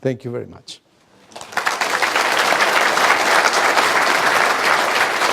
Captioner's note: applause